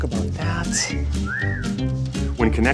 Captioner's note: wolf whistling